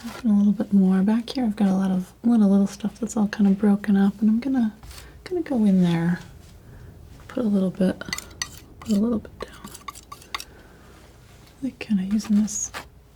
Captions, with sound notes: add a little bit more back here I've got a lot of little stuff that's all kinda broken up and I'm gonna go in there put a little bit down (scratching) I'm kinda using this